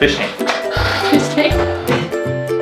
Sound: laughing

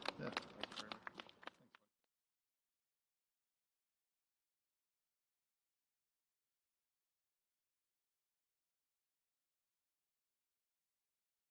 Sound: applause

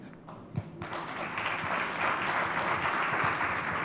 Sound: applause

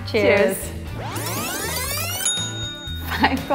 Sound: tape fast-forwarding; bell dings

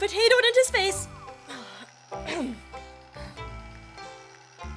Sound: clears throat

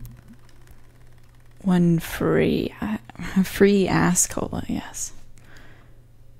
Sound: laughs

